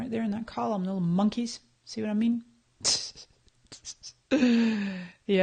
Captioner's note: laughs